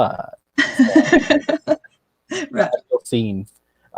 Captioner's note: laughs